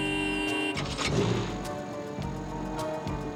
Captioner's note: horn honks